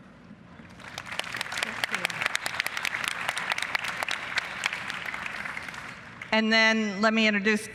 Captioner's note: applause